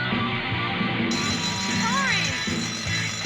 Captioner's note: bell ringing